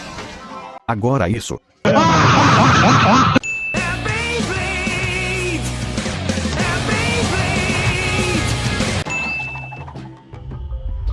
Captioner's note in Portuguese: risadas